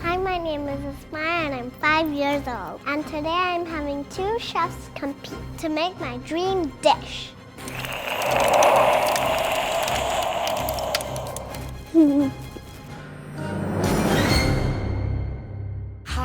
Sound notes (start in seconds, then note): 7.6 ice crackling and wind blowing; 13.7 grand music